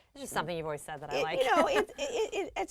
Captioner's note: laugh